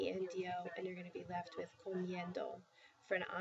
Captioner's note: spanish